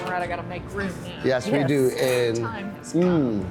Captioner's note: metal scraping